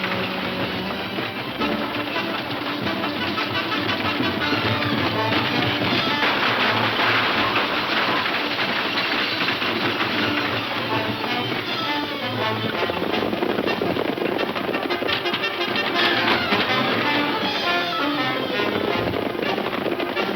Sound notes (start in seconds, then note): 0.0 valiant instrumental music; 5.9 gun shots firing; 10.3 bold instrumental music; 16.9 horse hooves pounding